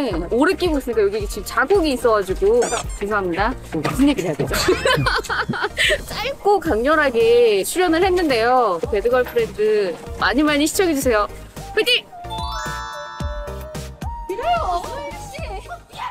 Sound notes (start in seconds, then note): 4.5 laughs broadly